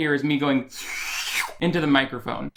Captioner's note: inhales loudly